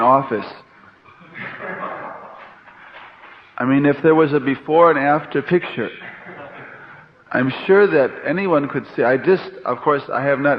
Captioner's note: laughter; laughter